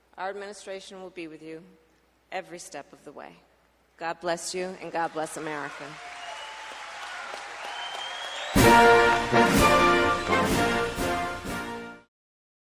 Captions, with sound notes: our administration will be with you every step of the way. God bless you. And God bless America. (Applause.)